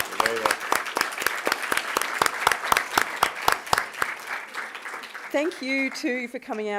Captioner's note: applause